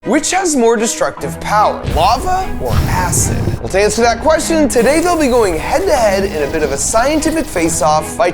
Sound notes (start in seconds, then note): 1.8 metal sizzling; 4.3 upbeat symphony music